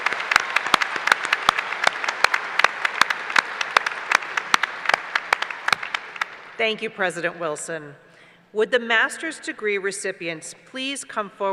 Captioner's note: applause